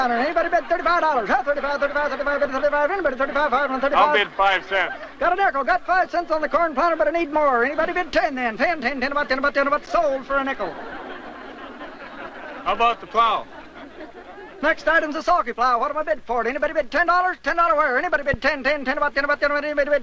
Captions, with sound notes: anybody bid 35 dollars? 35, 35, 35? Anybody 35? - I'll bid five cents. - Got a miracle, got five cents on the corn planter, but I need more, anybody bid ten then? Ten, ten, sold for a nickel. (crowd laughs) - How about the plow? - Next item's a sulky plow, what do I bid for, anybody bid ten dollars, ten dollar, anybody bid ten?